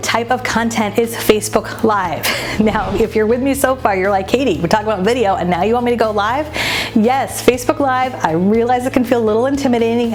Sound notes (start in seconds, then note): 2.2 air whooshing